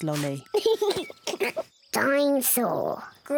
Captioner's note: giggles excitedly